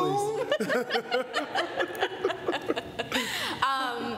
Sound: laughter

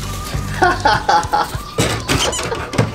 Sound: laugh

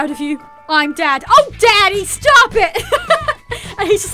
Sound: laughter

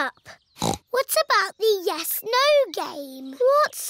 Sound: snorts

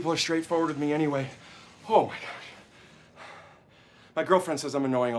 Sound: breathing heavily

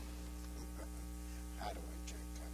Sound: laughter

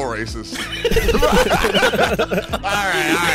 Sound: group laughing

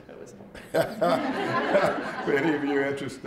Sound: laughter

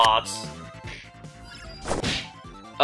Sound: alerted sfx

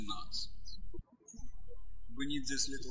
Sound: birds chirping

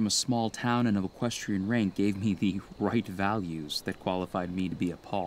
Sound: chuckling

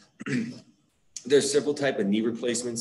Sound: clears throat

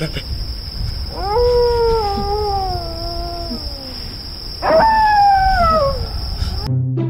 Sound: dog barking

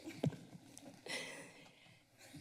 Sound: laughs

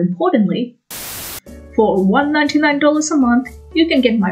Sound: TV static

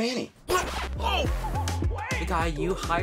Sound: record scratch

